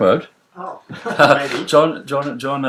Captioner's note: laughs